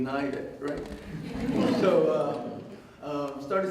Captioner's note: audience Laughter